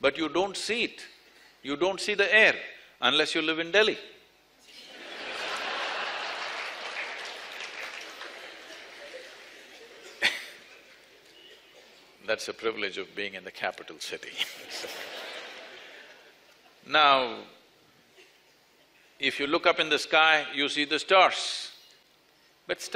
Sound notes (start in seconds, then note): 4.8 laughter/Applause; 14.3 laughter